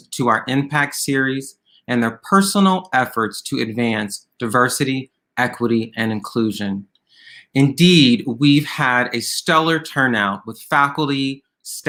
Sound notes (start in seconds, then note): none